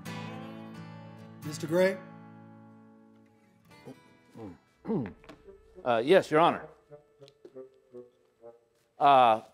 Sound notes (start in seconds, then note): 4.8 coughs; 6.8 quirky music